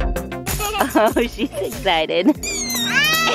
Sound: laughing

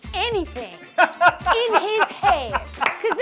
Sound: laughter

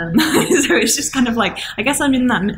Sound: laughing

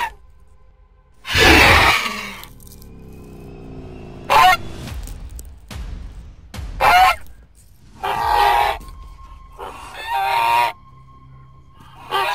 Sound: terror Bird Squawk Sounds

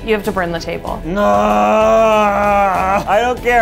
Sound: man groaning

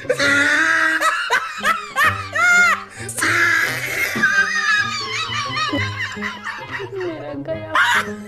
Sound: laughing

